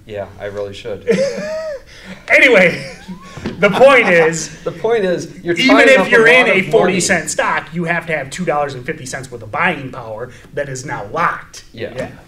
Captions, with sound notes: - Yeah, I really should. (both laugh) - Anyway, the point is-- - The point is-- - Even if you're in a 40 cent stock, you have to have $2.50 worth of buying power that is now locked.